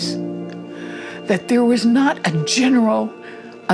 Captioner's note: none